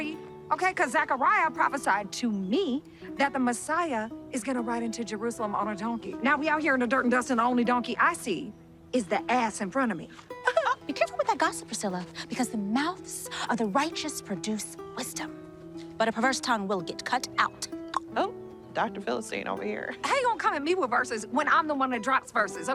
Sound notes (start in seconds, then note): 17.8 clicks tongue